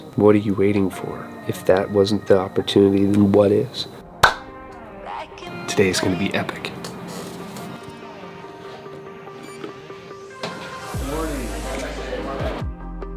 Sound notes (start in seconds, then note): 4.2 clap; 7.2 upbeat music; 9.4 beep